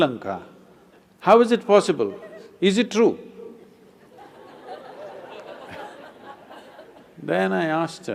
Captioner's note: laughter; 笑聲